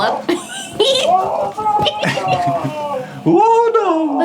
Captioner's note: team cackles